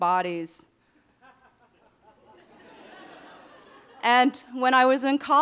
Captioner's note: audience laughing